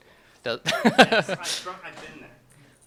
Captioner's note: chuckles